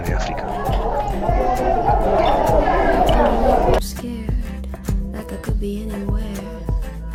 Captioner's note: sound of families on the ship